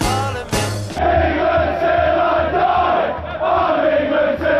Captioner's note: crowd